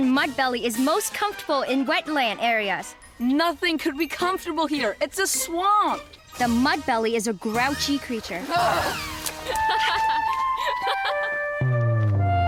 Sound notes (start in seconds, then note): 8.6 laughing; 12.0 upbeat music